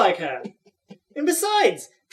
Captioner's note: Sully chuckling